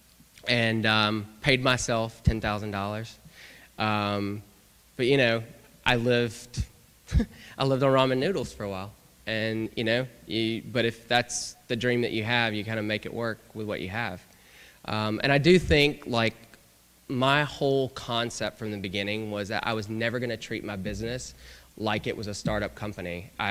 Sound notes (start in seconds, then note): 7.1 laughter